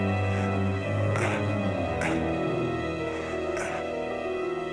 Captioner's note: grunting